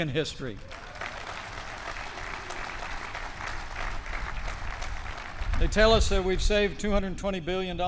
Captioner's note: applause